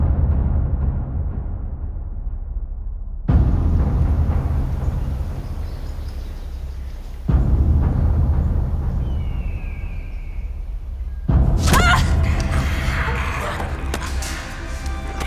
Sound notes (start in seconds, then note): 11.5 yell; 12.1 zombie growls; 14.3 suspenseful music